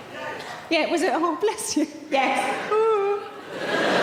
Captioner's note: imitates crying